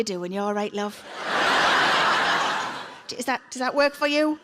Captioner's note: audience laughs